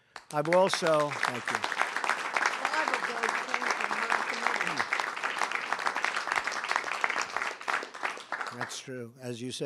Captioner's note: applause